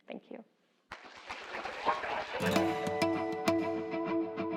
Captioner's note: applause